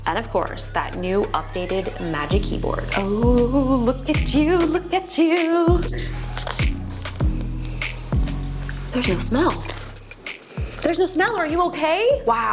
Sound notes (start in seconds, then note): 6.0 soft upbeat music; 7.2 inhales